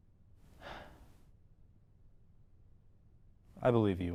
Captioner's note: sighs